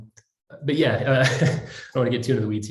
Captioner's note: laughs